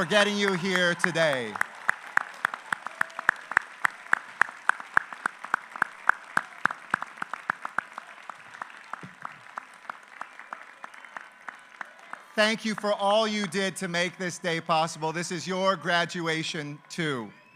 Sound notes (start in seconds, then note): 8.3 applause